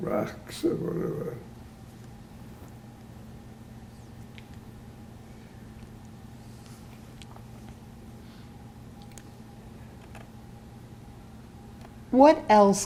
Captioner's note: pauses 10 seconds